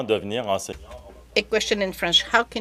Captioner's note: speaking in French